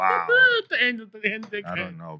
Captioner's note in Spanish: Hablando en idioma extranjero